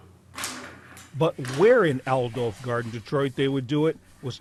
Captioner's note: voice-over